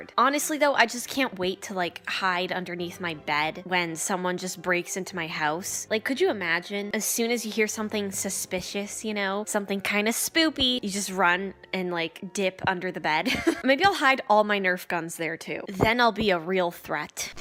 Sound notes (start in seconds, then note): 13.2 chuckles